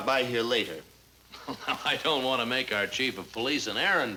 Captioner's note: laughs